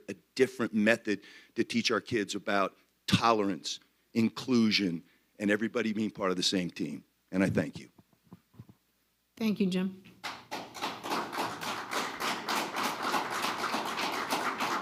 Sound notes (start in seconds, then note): 10.2 crowd clapping